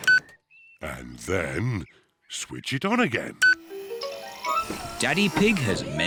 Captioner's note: beeps; beeps